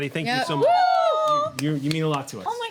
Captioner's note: cheering